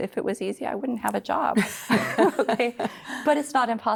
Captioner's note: laughter